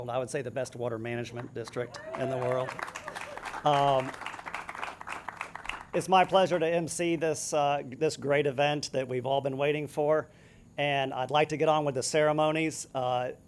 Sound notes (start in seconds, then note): 1.3 audience claps